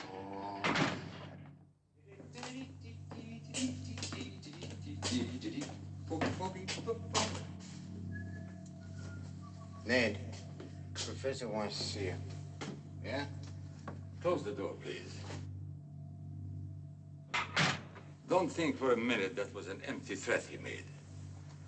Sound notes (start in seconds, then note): 2.1 humming; 8.0 Ned whistling